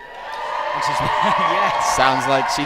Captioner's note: crowd cheers